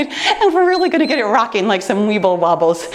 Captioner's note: timer beeps